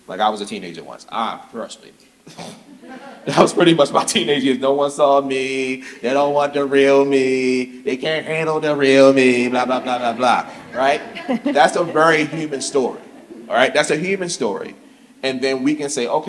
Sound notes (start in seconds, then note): 2.3 audience chuckles